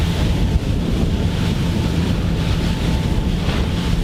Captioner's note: boat motor humming